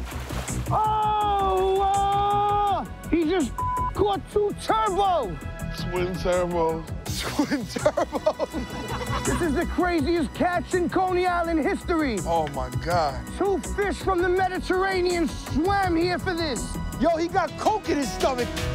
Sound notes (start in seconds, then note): 7.2 laughing